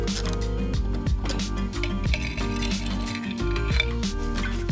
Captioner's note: metal clanging